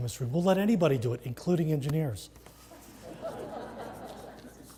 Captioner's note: laugh